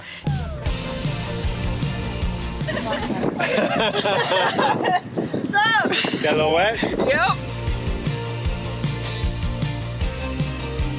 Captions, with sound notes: (pop music) (laughter) - Kinda wet? - Yep. (pop music)